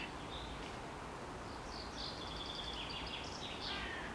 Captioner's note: bird chirps